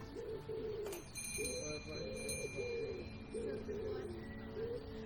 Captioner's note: bells chimming